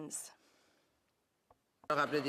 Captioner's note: speaking French